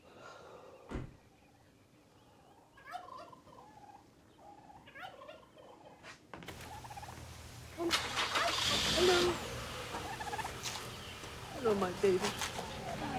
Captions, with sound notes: -[sighing] -[car door closing] [turkeys gobbling] Hello. Hello, my baby.